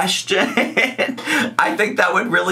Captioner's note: laughs